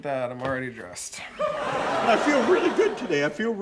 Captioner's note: audience laughing